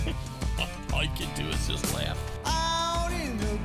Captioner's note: voiceover